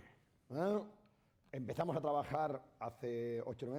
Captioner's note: speaking spanish